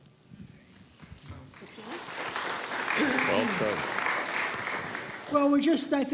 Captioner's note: applause